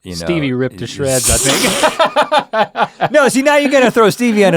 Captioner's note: laughs